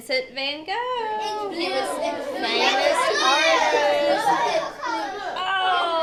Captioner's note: students chattering